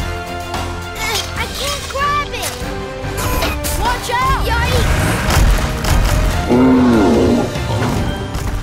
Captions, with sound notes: I can't grab it! - Watch out! - Yikes! [roaring]